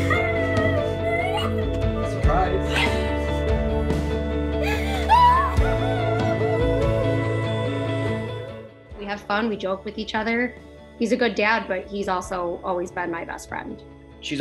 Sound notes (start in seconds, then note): 0.0 crying; 0.2 soft music; 4.6 crying; 5.4 soft music